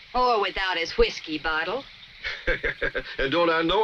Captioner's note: chuckles